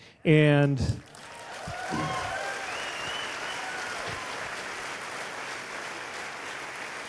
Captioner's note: cheers/applause